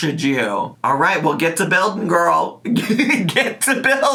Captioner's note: laughing